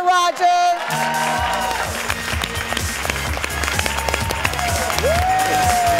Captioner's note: audience cheers and applause